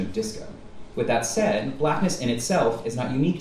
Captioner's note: none